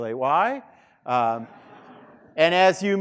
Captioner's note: students laughing